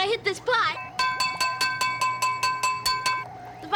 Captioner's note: clanging